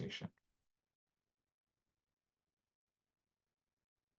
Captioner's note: silence